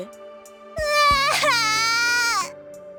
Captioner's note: sob